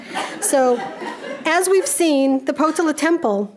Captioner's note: audience laughing